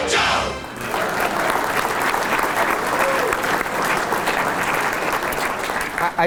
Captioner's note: applause